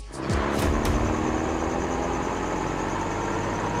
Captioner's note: cars pass